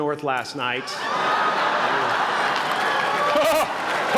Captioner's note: laughter